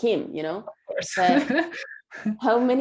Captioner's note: laughing